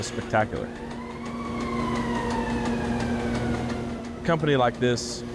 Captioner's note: siren wailing